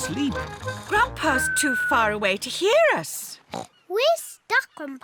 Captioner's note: oinks